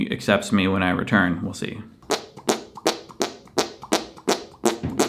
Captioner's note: farting sounds